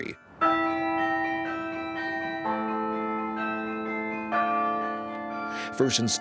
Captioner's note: bells ringing in harmony